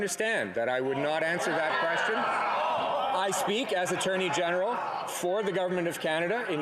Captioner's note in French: voix de l'interprète